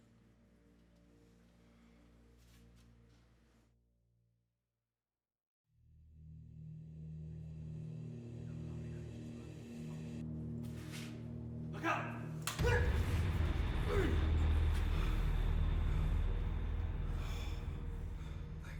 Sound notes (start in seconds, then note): 12.5 blow thudding; 14.7 soft tense music